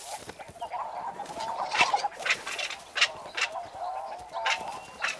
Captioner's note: birds chitter and squawk